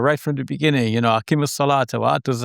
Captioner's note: foreign language